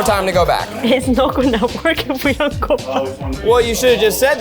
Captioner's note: laughs